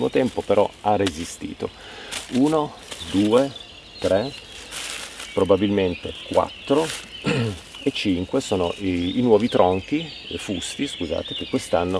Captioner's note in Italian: schiarire la voce